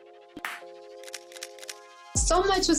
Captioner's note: camera shutters